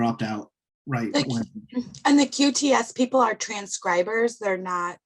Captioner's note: tender Voice